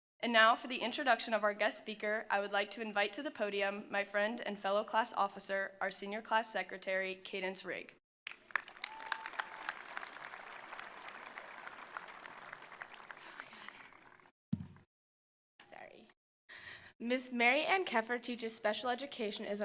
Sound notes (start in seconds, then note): 8.2 attendees applauding; 8.3 attendees cheering